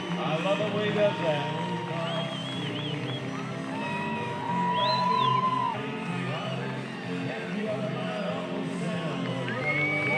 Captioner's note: cheering, music playing